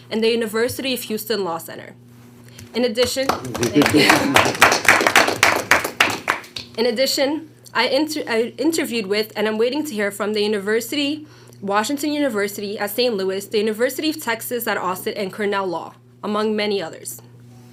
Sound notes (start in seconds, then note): 3.0 board members applauding